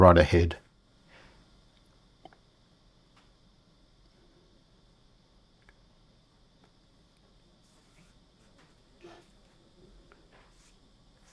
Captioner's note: silence